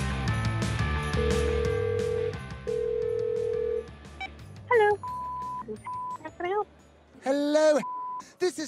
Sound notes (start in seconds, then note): 1.1 phone ringing; 4.8 beeping; 7.8 beeping